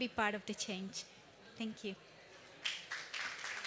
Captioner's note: applause